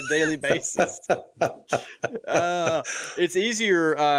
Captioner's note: laughs